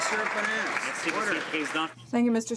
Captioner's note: some Applause